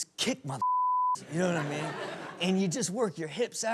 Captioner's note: audience laughs